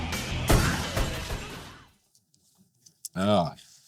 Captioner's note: gunshots bang